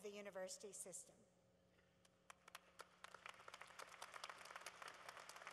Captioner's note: applause